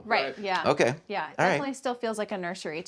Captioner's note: none